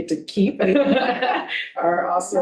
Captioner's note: board members laughing